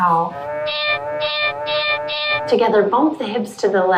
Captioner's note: cow mowing; cat meowing